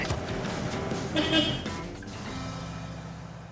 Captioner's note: honking